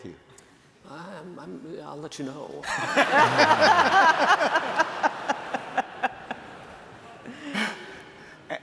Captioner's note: laughter